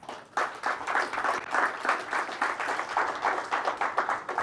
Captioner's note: audience applauds